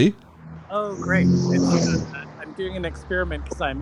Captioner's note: car engine roars